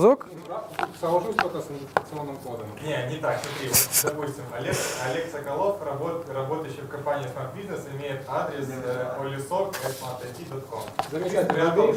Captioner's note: a discussion in the audience